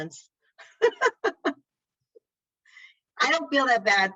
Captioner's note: laughs